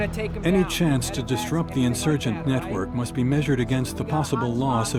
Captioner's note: voiceover